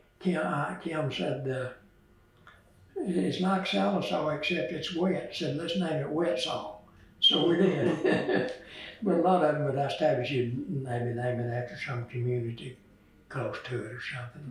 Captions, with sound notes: Kim said, “It’s like Sallisaw except it’s wet, so let’s name it Wetsaw,” so we did. (Laughs) A lot of them that was established were named after some community close to it or something.